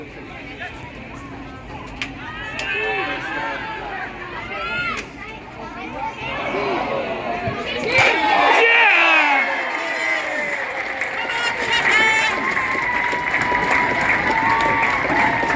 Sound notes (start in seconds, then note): 8.2 sudden gasps and cheers; 12.8 cheering/applause